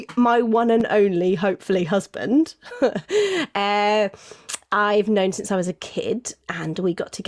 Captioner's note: giggles